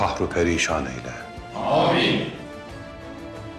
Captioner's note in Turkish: Hep bir ağızdan